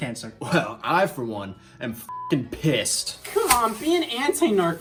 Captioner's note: beep